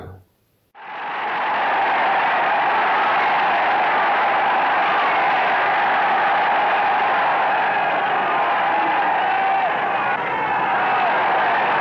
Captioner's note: cheers